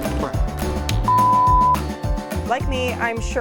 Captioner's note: upbeat music; production tone beeps